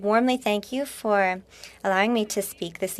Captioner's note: speaking French